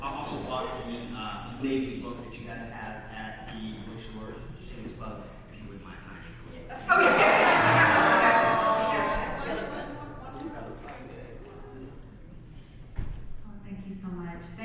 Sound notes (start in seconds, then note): 6.6 audience laughs and awes